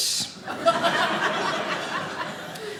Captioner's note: audience laughing